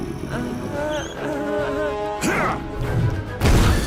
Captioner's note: growls; whimpers